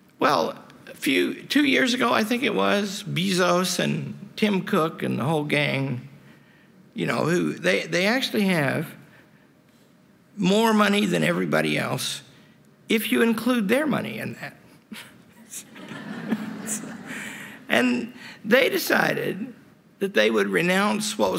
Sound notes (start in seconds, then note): 15.3 laughter